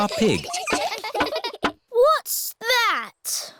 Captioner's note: all giggling